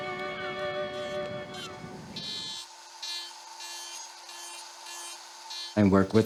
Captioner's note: tool buzzing